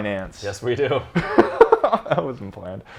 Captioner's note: laughing